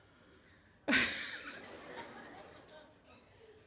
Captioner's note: soft laughter